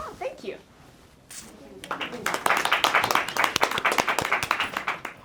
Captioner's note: applause